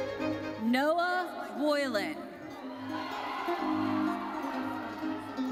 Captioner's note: audience cheers